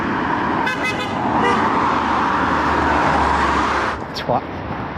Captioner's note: horn honking